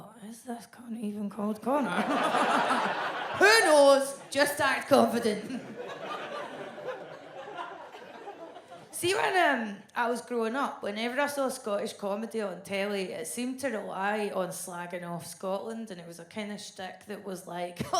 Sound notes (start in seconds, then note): 5.6 audience laughs